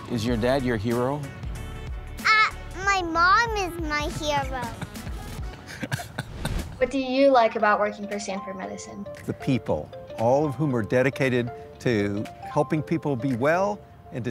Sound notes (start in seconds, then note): 4.6 laughing